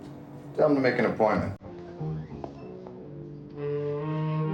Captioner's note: footsteps tapping